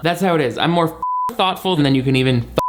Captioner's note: beep